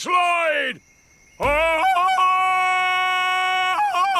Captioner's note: ululating